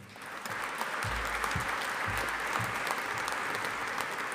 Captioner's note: audience applauding